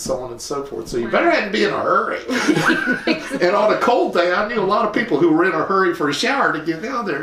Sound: laughter

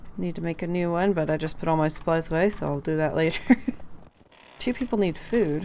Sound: laughs

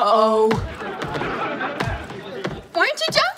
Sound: laughing

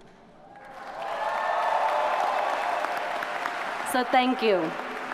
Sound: audience cheers and applauds

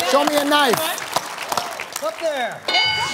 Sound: applause

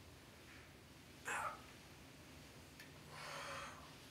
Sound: groan

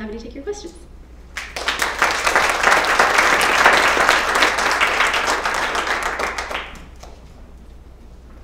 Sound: applause

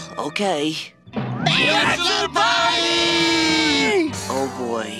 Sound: everyone screaming

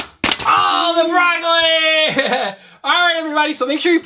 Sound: laughs

